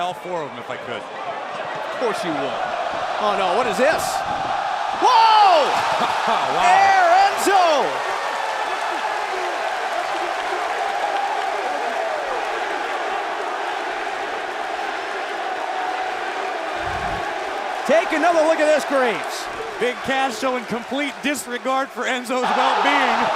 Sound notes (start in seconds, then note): 12.5 cheers and applause